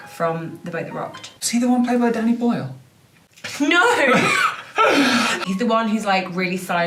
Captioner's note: laughter